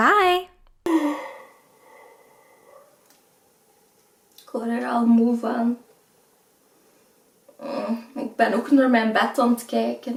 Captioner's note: yawning sound